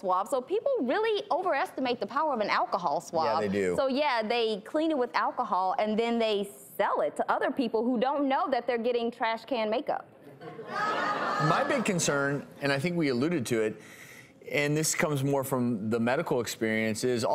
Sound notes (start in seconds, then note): 10.4 laughing